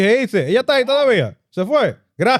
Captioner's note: speaking In Foreign Language